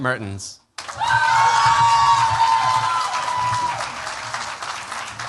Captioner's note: cheers, applause